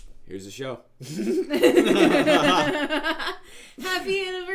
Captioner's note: laughing